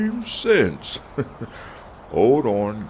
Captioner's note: soft chuckle